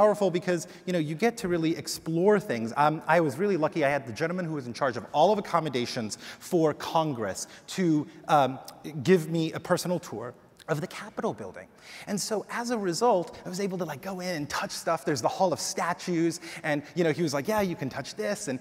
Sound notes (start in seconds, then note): none